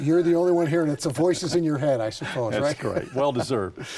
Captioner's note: chuckles